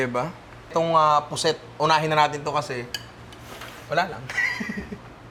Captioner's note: laughs